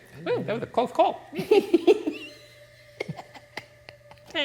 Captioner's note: both laughing